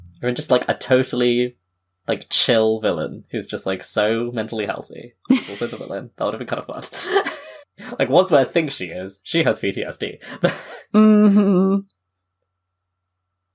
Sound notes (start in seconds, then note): 5.3 laughs